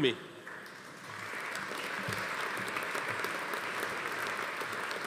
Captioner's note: audience applauding